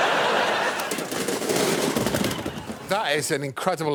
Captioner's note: laughter